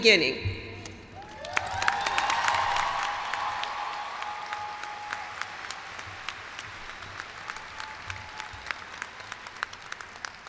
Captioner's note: cheers and applause